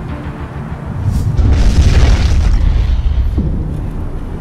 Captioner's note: blasting